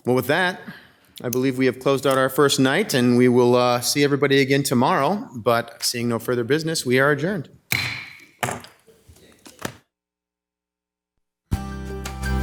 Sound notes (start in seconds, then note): 7.7 gavel bangs